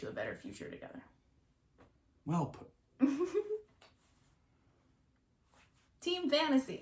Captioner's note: laughs